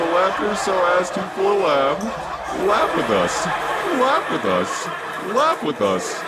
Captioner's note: studio audience joins in unison